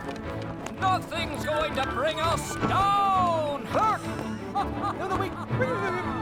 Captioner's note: laughs